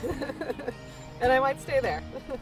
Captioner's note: laughing